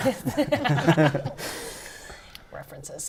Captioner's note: laughter